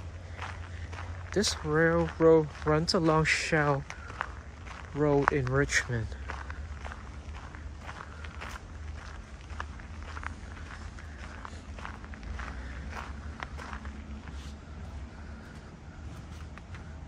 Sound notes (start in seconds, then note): 6.1 walking on gravel